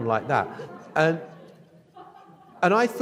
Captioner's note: audience laughs